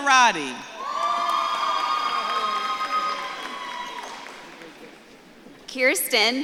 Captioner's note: audience claps and cheers